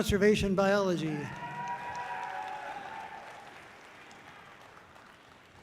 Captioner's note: audience cheering loudly